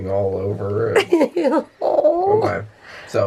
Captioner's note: laughing